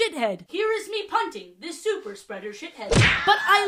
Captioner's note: cartoony impact sfx